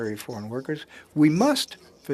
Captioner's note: speaking French